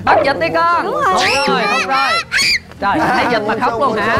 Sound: high-pitched scream

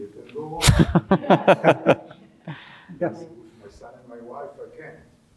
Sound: all laughing

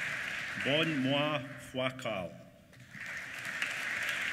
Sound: applause

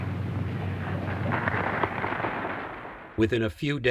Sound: audience claps

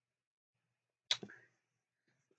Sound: 5 tongue click streak

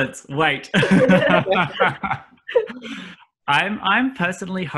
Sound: laughs

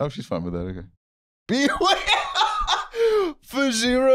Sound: laughing

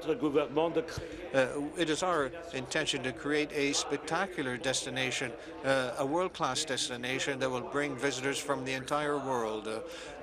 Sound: speaking French

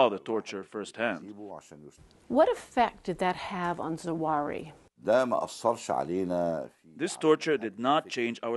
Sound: through translator

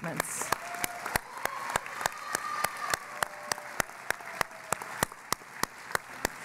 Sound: cheering and Applause

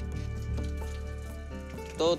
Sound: speaking spanish

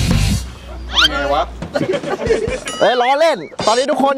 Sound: chuckles

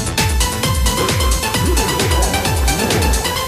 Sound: robot Shouting

